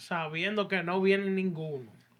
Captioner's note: speaking Spanish